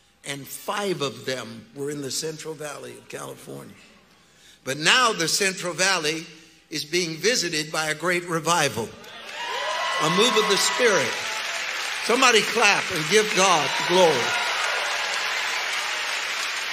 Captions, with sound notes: And five of them were in the Central Valley of California. But now the Central Valley is being visited by a great revival. (congregants cheering) A move of the Spirit. Somebody clap and give God the glory. (congregants cheering and applauding)